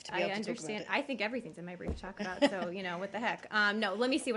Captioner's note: laughter